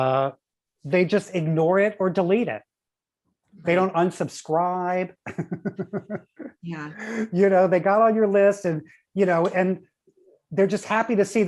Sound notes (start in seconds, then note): 5.2 chuckles